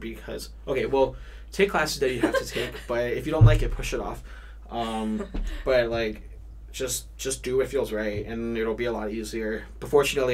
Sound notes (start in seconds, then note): 4.8 laughs